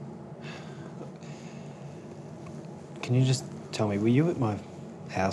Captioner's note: sighs